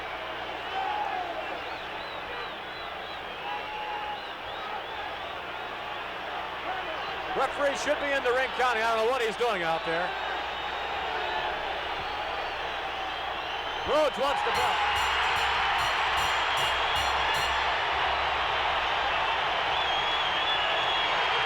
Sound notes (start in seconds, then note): 13.9 bell rings; 17.3 audience cheering; 21.2 audience applauding and cheering